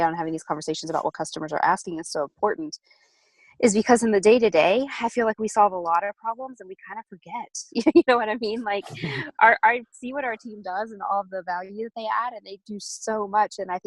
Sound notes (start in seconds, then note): 8.7 laughs